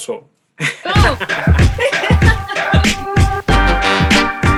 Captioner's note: both laughing